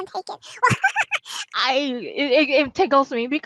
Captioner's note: laughing